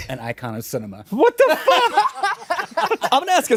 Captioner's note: all laughing